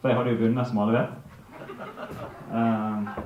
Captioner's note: laughter